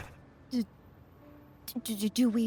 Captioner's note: in Female Passerby’s voice